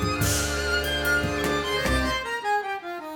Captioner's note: none